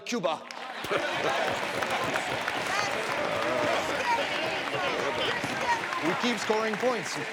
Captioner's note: people clapping